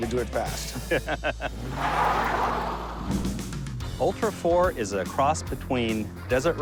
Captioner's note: laughs